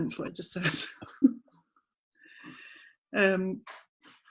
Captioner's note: laughing